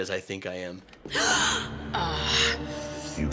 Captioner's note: gasps and strains